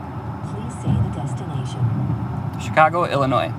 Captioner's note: car